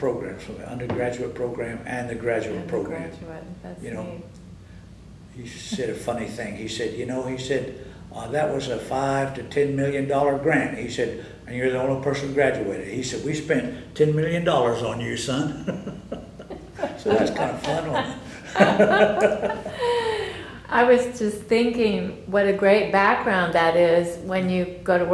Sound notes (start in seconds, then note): 15.5 laughter